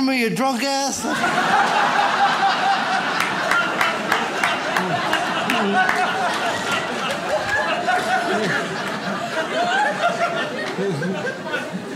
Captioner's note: audience laughs